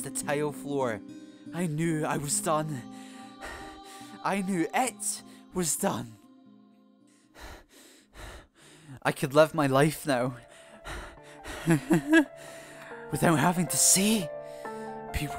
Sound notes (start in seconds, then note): 3.4 hyperventilating; 7.4 hyperventilating; 11.6 laughing